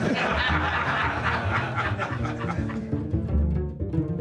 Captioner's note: audience laughing